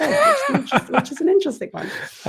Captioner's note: laugh